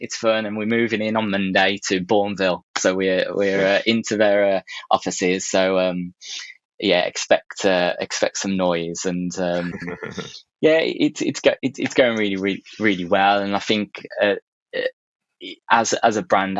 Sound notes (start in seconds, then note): 9.5 chuckling